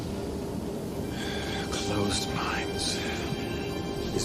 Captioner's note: whispering